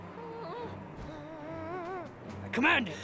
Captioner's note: conflicted whimpering